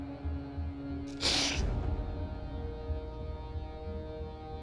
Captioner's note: sniffling